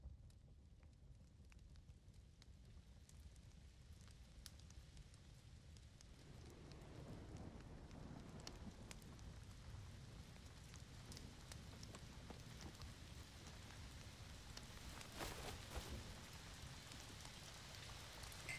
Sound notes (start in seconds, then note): 0.7 fire crackling; 9.2 rain pattering; 14.7 jackets rustling; 18.4 glass clinking